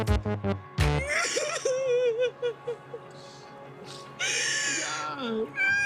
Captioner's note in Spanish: Sollozos